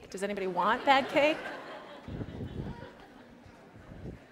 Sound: laughter

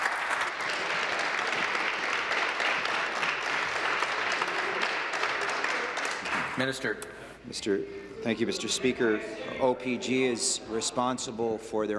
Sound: applause

